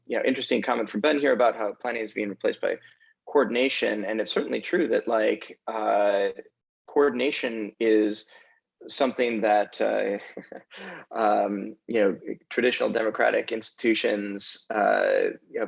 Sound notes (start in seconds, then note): 10.1 chuckles